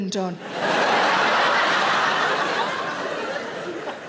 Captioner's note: audience laughs